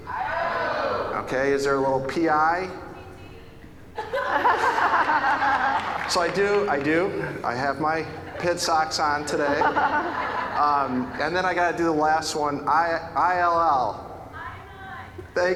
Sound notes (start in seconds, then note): 4.0 audience laughing